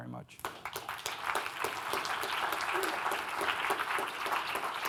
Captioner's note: audience applauding